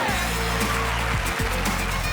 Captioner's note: spectators applauding